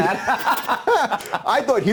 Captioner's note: both laughing